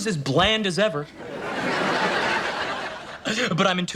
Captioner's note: audience laughs